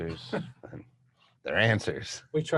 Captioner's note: chuckling